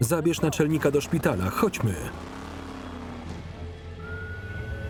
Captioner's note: engine rumbling; police siren wailing